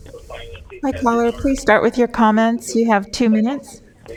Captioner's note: phone ringing